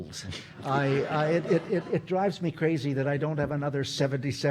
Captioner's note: audience laughing